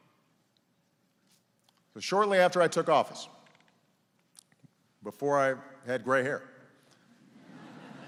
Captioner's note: laughter